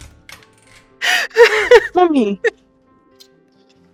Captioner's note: crying